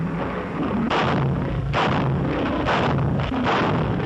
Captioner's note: gunshots